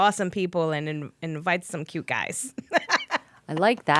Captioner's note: laughing